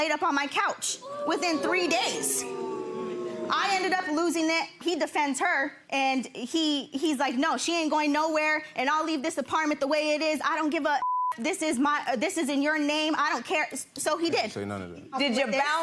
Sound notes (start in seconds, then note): 2.5 audience groaning; 11.0 beep